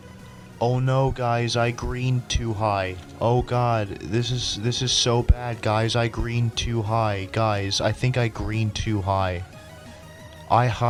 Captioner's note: sarcastic tone